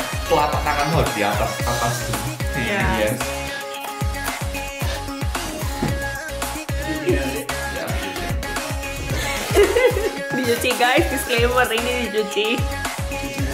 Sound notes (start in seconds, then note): 8.9 laughing